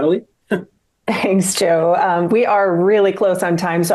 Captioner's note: laughs